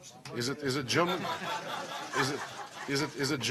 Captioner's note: laughter